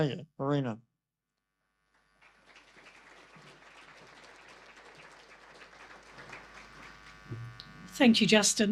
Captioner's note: audience applause